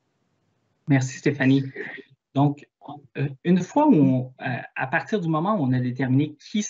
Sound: speaks in foreign language

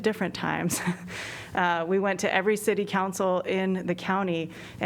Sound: laughter

